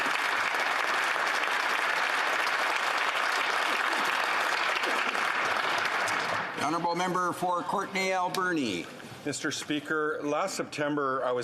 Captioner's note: applause